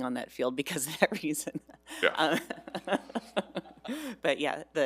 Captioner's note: chuckles